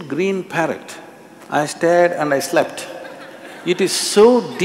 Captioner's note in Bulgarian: смехове